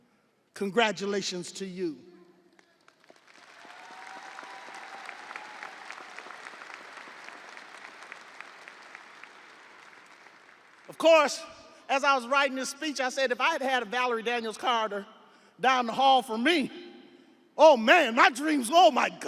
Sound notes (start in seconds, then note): 8.5 audience applauding; 8.5 audience cheering